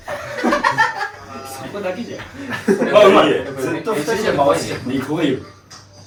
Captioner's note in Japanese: 笑い